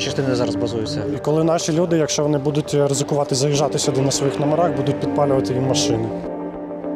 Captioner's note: belarusian